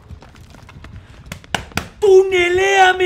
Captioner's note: chest pounding in Spanish